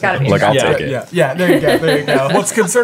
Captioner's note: laughing